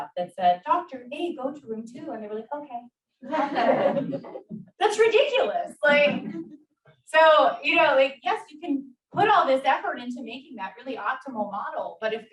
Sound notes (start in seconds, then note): 3.2 audience laughs